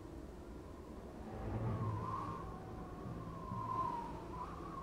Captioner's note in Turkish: Rüzgâr esiyor